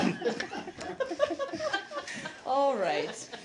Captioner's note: laughter